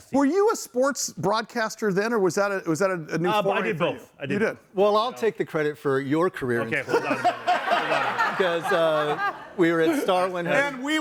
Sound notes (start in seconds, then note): 6.9 everyone laughs